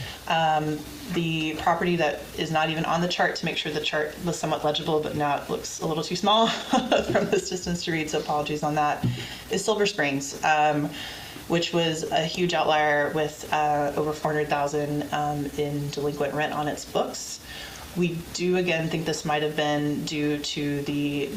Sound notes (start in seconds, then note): 6.5 laughs